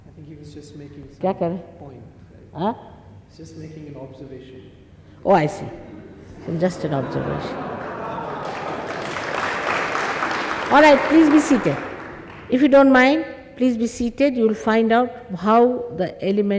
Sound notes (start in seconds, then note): 7.3 all clap n laugh